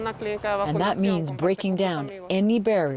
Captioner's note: speaking Foreign Language